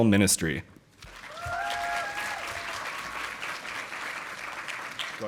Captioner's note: audience applauding